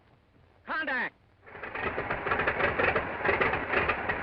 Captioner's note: engine starting